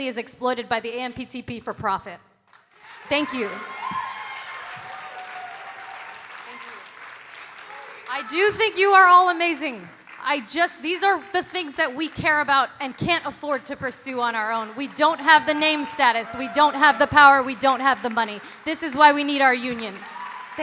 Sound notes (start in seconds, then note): 2.5 audience cheering and applauding